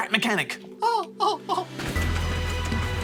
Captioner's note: giggles